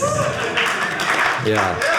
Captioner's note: audience cheering